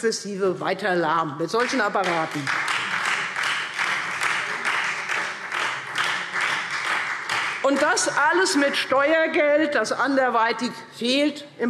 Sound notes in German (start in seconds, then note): 1.6 Beifall Freie Demokraten